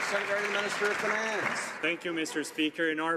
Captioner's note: some Applause